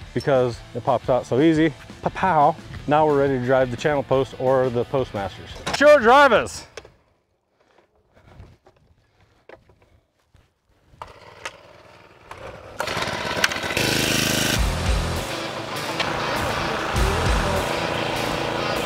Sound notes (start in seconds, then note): 1.0 rock music continues; 9.9 driver rattling; 12.7 engines revving; 14.0 energetic rock music